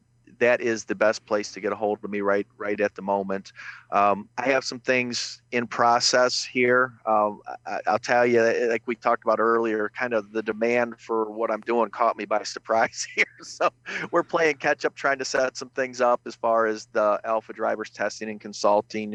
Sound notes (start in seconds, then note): 12.6 laughs